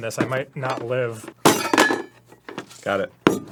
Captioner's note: metal clank